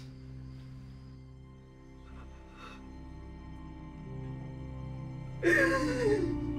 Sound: sobbing

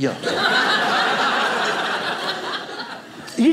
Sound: audience laughing

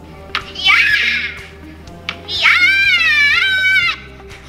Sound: kid screaming

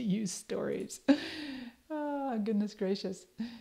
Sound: chuckles

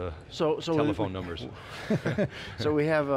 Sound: laughs

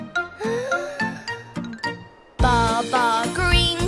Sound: yawning

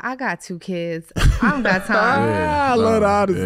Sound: Iman laughing

